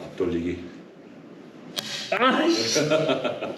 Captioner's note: misfires continue, making everyone laugh